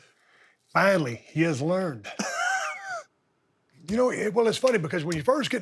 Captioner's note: Bubba Ray laughs